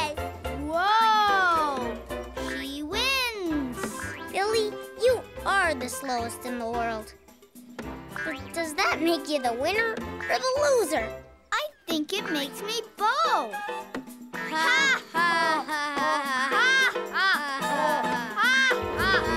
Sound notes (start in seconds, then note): 9.6 laughing slowly